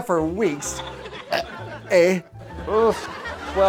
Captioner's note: belch